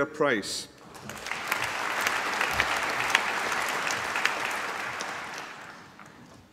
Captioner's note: applause